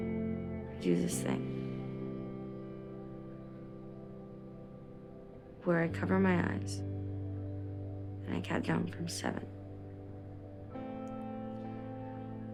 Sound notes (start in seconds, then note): none